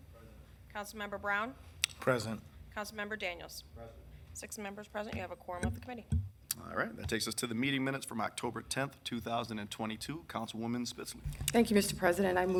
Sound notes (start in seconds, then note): none